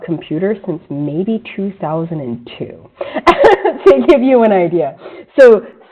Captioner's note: laughs